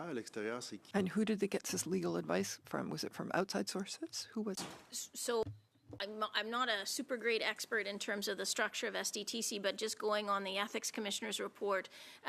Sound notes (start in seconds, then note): 1.4 speaking French